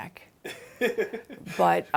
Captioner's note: interviewer laughing